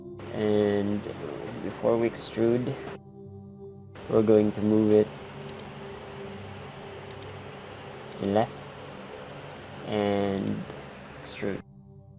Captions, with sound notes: and before we EXTRUDE we're going to move it (mouse click) the LEFT and EXTRODE